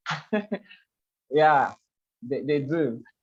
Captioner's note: laughs